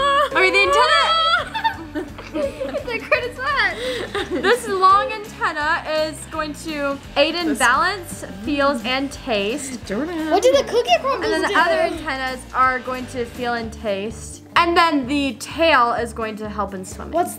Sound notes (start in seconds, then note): 1.8 laughing